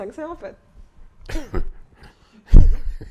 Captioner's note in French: Rires